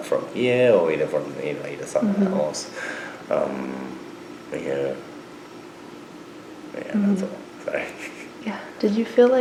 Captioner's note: laughs